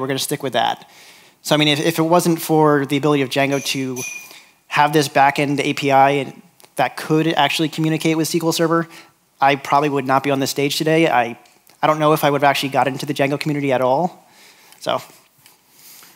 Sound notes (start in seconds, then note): none